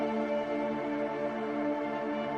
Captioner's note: none